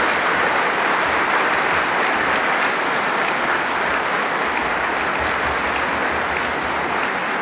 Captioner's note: applause